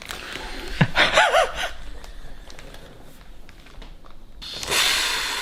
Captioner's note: both laughing; inhaling air